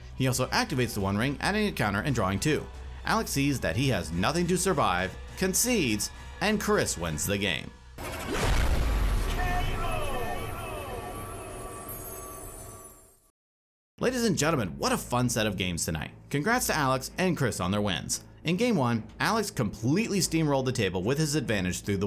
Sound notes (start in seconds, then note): 11.7 echoing